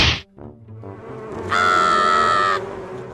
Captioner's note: smack!; bees buzzing